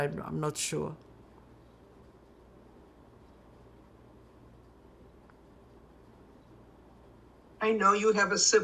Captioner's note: pauses 6 seconds